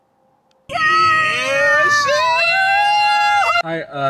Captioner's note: shouting